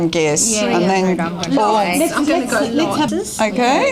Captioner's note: audience chatter